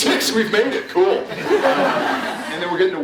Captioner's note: laughs